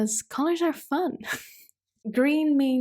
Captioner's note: chuckles